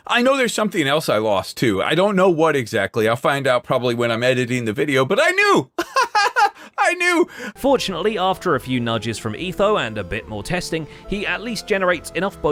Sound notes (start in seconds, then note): 5.8 laughs